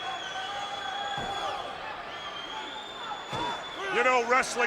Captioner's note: spectators cheering